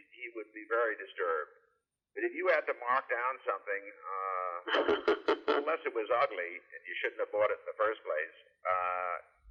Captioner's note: laughter